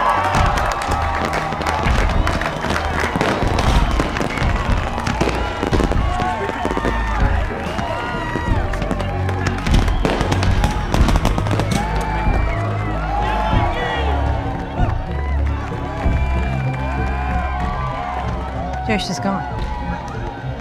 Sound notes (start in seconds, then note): 0.0 applause; 0.2 fireworks; 13.0 shouting